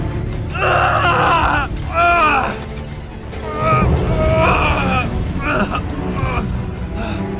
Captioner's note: screaming in agony